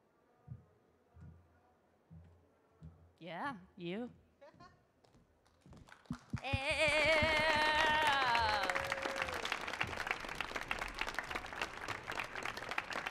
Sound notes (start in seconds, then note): 5.4 audience clapping; 6.6 laughs